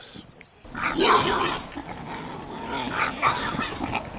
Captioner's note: boars roaring